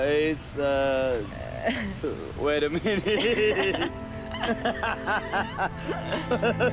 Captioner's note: laughs